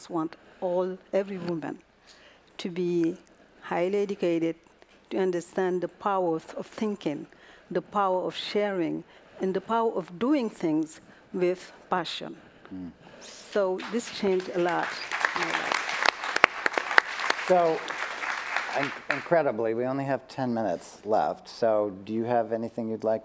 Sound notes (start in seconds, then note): 13.8 applause